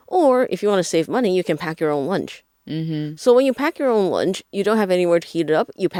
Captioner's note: mhmm